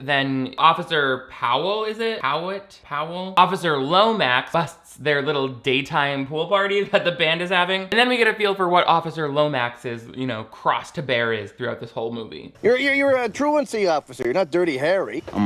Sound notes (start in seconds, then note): none